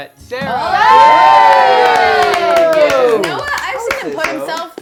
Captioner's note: cheering